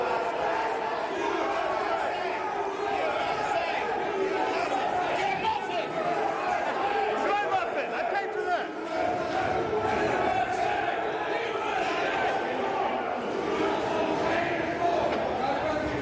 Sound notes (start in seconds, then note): 0.5 yelling